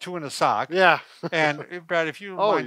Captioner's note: chuckles